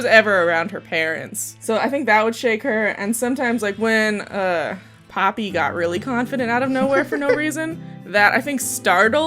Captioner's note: laughter